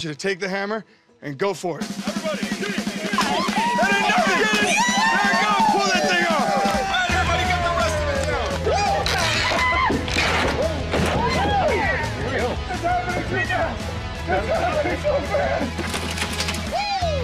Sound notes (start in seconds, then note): 3.0 cheering; 9.0 cheering continuees